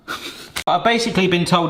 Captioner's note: laughing